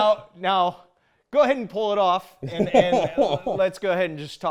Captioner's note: laughs